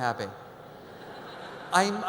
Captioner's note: audience laughs